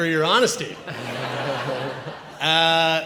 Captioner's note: audience laughs